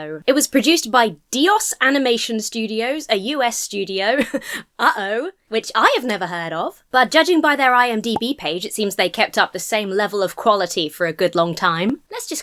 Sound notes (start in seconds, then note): 3.8 chuckles